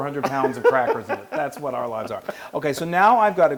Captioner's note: laugh